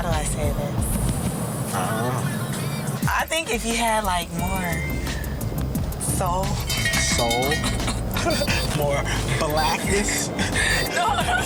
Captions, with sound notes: How do I say this. - I don't know. - I think if you had like, more soul (train sound effects) - Soul? (laughs) more blackness?